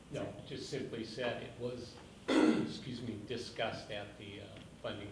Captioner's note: coughs